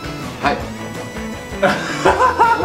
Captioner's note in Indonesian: tertawa terbahak-bahak